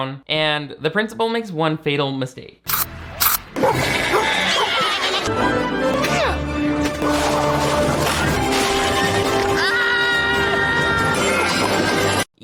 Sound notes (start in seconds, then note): 3.4 dog barks; 3.8 sheep bleat; 5.2 suspenseful music; 9.3 Principal Jindraike screams